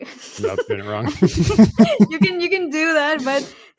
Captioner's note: chuckling